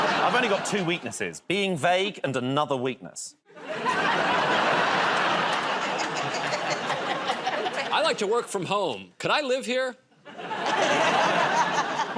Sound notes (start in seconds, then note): 3.5 laughter; 5.7 laughing; 10.2 laughter